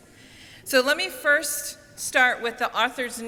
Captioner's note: none